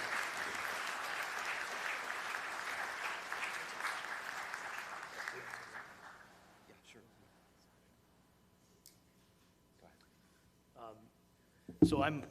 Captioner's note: applause